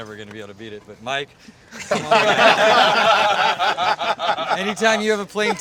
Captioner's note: everyone laughing